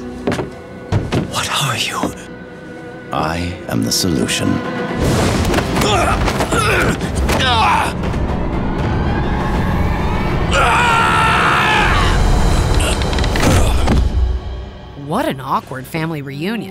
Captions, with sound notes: What are you? I am the solution. [grunting] [screaming] [grunting] What an awkward family reunion.